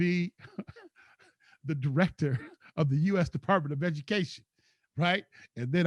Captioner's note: laughs